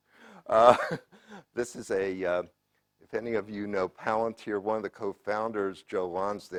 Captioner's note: laugh